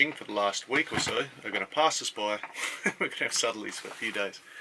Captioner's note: chuckles